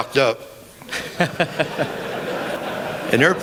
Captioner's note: laughter